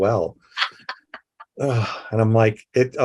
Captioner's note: laughing